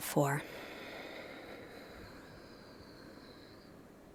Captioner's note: inhales; exhales